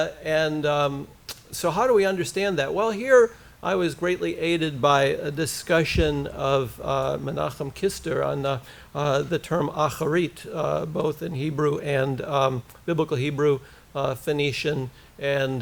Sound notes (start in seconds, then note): 9.7 hebrew